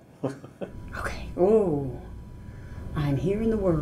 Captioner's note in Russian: усмехнулся; шепчет